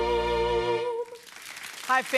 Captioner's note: applause